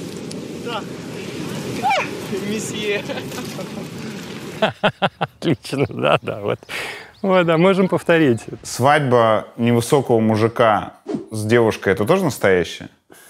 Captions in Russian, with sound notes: Так. — Месье. — (Смеётся) Отлично! Да, да. Вот. «А можем повторить!» — Свадьба невысокого мужика с девушкой — это тоже настоящее?